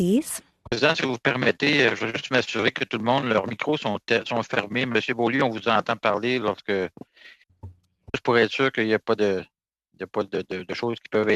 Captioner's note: speaking French